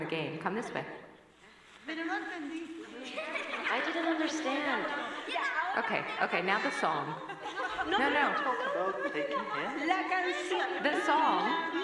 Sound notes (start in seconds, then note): 6.3 laughter